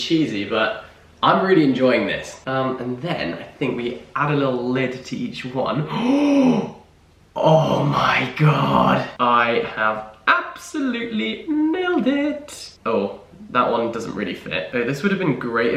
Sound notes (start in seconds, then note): 5.8 gasps excitedly